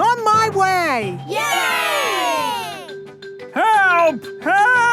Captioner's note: crowd cheering